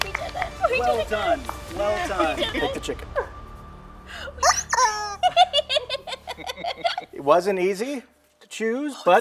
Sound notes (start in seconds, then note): 4.4 squeak